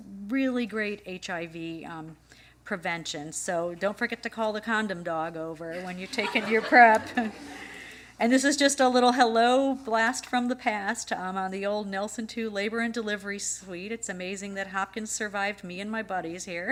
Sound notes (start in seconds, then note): 7.3 laughter